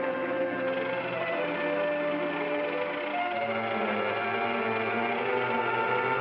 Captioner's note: ominous music; portcullis crank clicking; ominous music